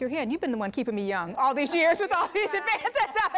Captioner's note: laughter